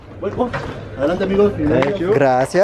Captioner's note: guide speaking Spanish